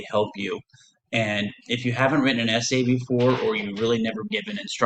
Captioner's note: thud